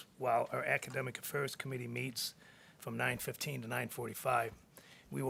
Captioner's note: none